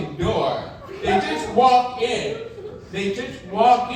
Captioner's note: audience laughing